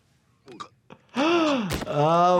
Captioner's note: doctor gasps